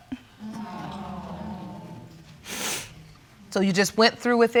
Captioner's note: audience exclaiming